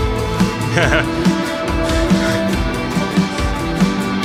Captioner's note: laughing; soft rock music